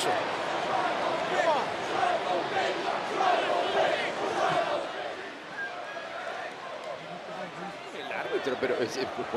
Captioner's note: applause